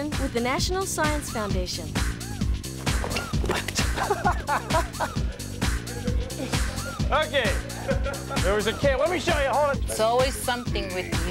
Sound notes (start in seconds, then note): 3.2 laughs